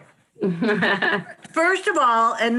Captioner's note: laughs